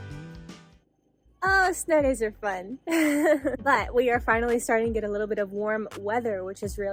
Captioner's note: laughter